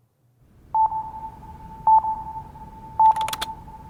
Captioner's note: beeping